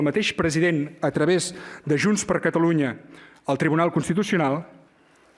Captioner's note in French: espagnol